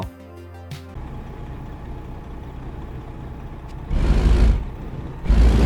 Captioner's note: engine revving